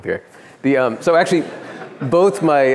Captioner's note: laughter